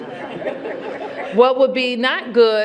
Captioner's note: laughter